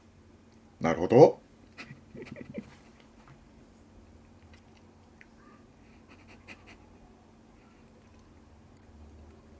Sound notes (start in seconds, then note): 1.7 laughter